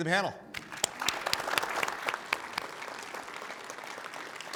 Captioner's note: attendees clapping